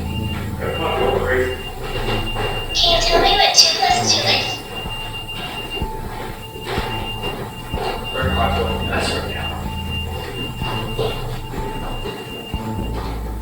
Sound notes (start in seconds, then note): 4.3 REM-Pod beeping